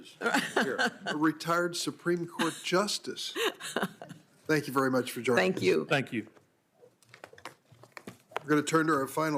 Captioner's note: laughter